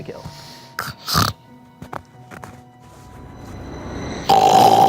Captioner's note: snores